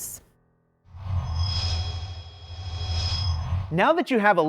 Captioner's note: sound Effects